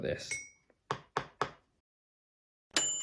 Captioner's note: spoon tapping; bright bell dinging